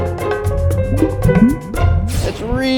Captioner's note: water bubbling